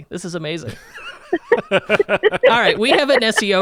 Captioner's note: laugh